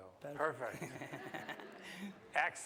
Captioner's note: laughs